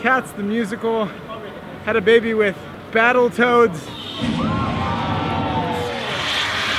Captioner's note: explosion